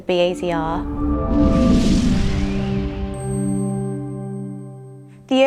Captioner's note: upbeat swooshing sound